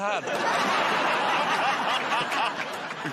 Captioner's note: laughter